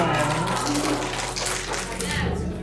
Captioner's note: finger snapping